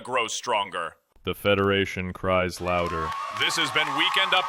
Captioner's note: audience erupts, applause